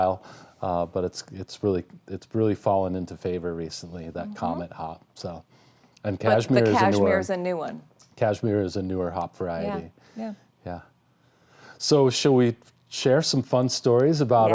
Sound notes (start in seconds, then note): none